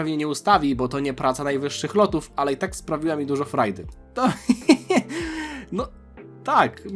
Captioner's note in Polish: śmiech